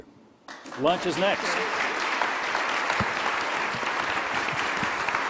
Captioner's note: crowd applauding